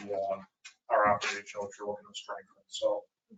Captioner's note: creaking chair drowns out speaker